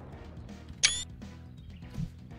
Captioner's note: steam screenshot sound